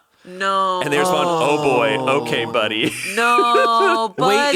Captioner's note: laughs